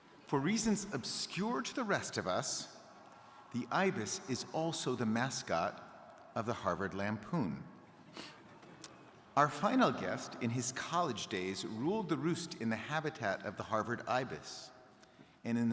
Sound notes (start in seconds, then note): none